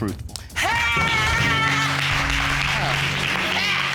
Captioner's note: exclaims